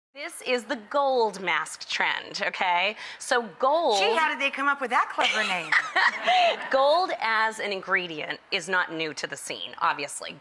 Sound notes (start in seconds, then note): 5.3 laughing